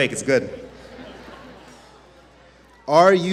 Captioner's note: laughter